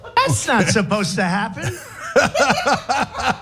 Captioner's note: laugh